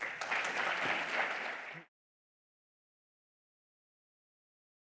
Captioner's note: audience applauding